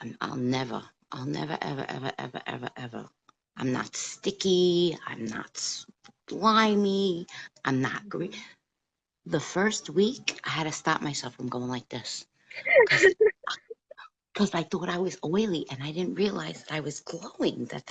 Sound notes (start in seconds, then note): 12.6 laughs